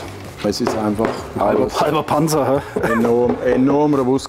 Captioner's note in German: lacht